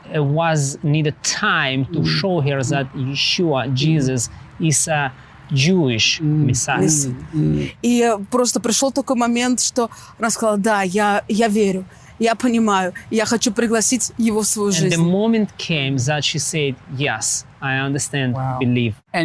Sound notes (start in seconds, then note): 7.2 speaking in foreign language